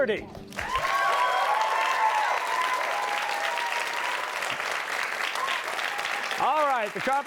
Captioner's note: cheers and applause